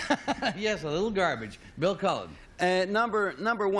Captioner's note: laughs